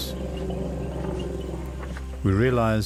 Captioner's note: rumbling